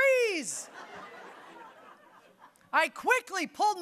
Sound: audience laughing

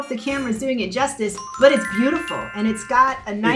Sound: chime tinkling

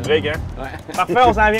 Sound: laughs

